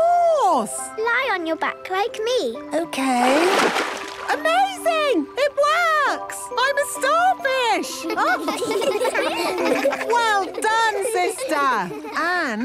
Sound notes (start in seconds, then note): 8.0 children laughing